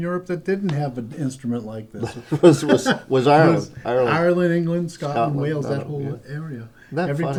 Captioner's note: laughter